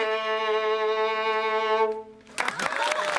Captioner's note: applause and cheering